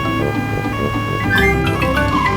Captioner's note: siren wailing